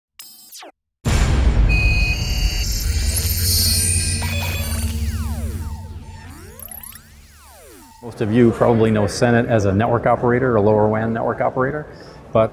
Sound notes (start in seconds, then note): 0.4 electronic beeping; 1.4 booming logo; 1.6 electronic beeping